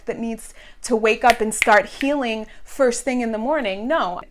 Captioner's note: snaps